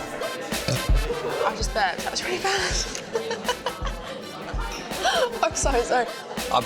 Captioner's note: laughs